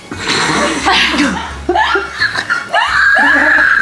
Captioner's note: laughter